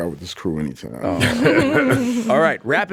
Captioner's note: all laughing